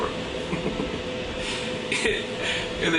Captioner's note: chuckles